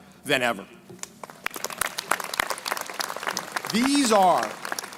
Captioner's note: crowd applauding